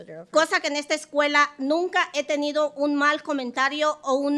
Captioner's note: speaking Spanish